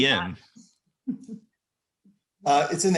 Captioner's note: laughing